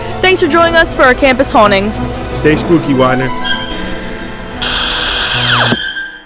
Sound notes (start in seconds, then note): 4.0 television static